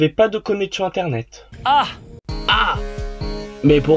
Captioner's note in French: Ah !